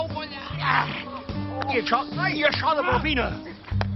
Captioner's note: grumbles